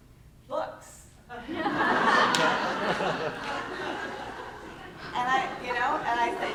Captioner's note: laughter